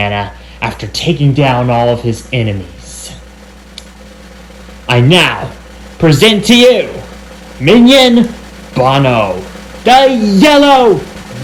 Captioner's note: 'yellow' section cheers